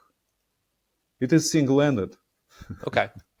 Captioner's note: laughing